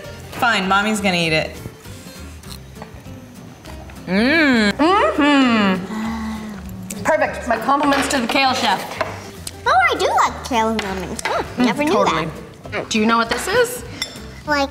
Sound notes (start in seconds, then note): 2.4 bacon crunching